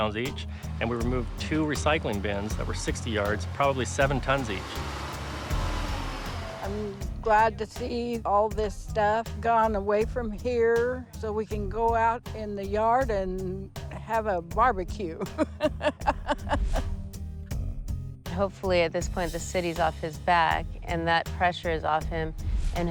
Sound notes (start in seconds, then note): 15.2 laughs